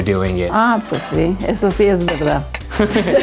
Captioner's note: speaks in Spanish; laughing loudly